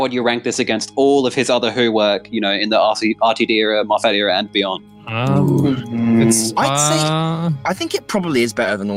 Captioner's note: unsure murmuring